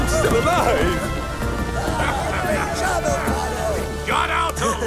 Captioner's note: sailors laugh